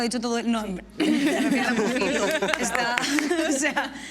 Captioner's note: laugh